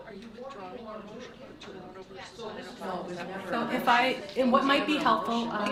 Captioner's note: board members murmuring